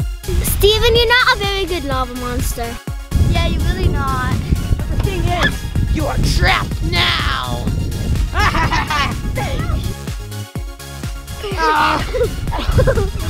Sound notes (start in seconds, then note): 8.3 laughing; 9.8 girls laughing